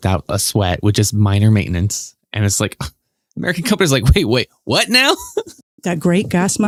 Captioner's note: guffaw